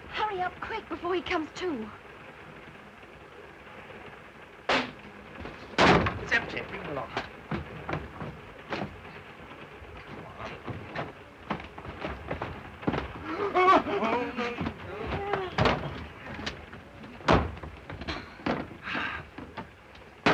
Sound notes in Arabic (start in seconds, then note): 3.9 انفجار; 5.4 صوت ارتطام الجذع; 12.9 يصرخ دوبو; 17.2 غطاء صندوق السيارة ينغلق بقوة; 18.8 تنهد